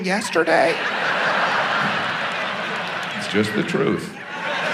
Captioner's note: audience laughs